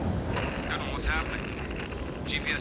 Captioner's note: Cook over radio